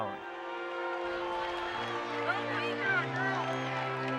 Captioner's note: crowd cheering